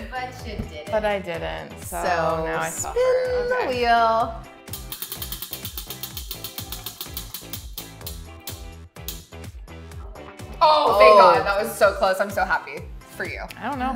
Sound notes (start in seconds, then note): 4.8 wheel clicks